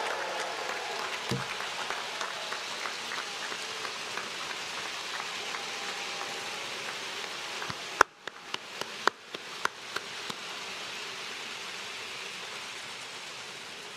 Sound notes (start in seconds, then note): 5.2 cheers and applause